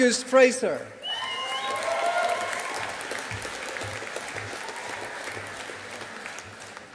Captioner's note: audience applauding